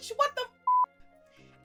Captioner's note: beep